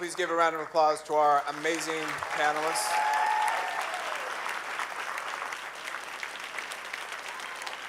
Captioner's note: audience cheers and applauds